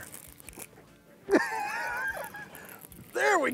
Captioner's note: laughs